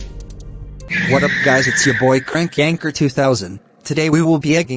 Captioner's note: wain rubbers screech